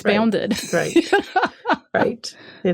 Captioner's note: laughs